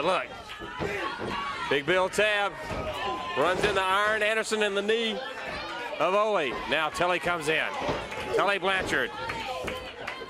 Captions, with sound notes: >> YEAH, BUT LOOK. TAKE BILL TABB RUNS INTO ARN ANDERSON AND THE KNEE OF OLE. NOW TULLY COMES IN, TULLY BLANCHARD. >> [CROWD CHEERING] >> THESE THREE MEN, YOU LOOK AT THEM AND J.J. AND YOU THINK ABOUT DUSTY, WHAT THEY DID TO DUSTY AND WHAT DUSTY